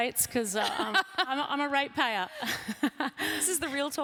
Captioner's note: laughs; laughs